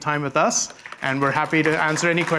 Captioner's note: applause